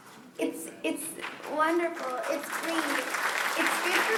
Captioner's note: applause